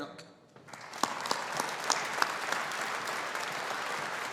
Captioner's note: audience applauding